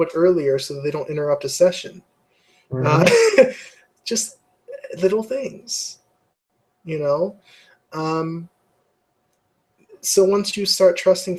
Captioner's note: laugh